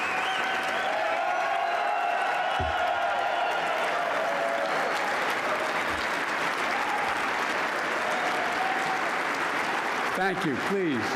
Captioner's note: applause